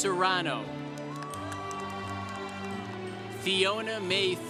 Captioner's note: congregation cheering